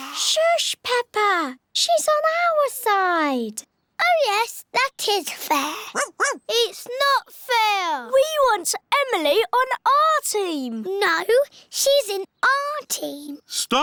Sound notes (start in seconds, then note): 5.9 barks